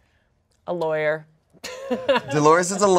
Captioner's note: laughs